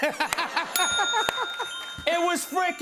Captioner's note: laughter; bell dings